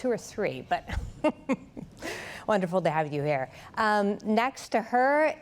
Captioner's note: laughs